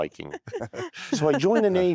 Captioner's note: laughter